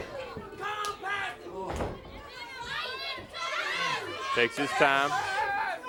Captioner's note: crowd chatter